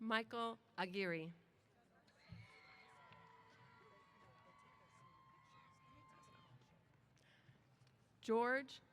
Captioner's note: cheers